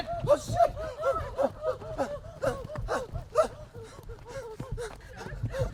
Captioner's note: jadeando